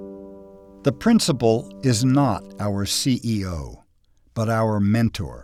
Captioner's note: voiceover